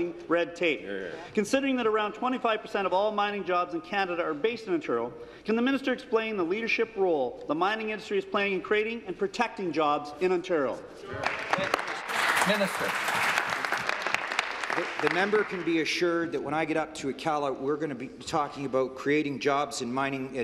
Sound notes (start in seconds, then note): 15.8 applause